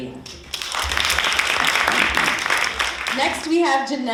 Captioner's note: audience applauding